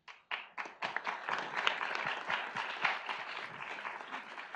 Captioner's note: audience applauds